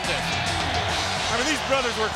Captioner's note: audience cheers